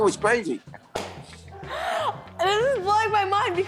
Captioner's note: laughter